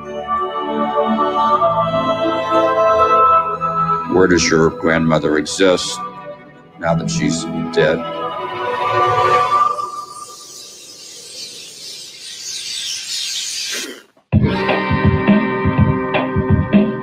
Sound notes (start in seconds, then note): 9.3 birds chirping; 14.3 upbeat music